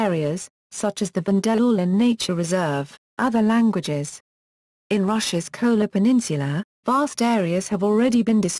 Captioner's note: other languages